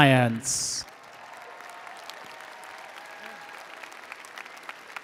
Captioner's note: attendees applauding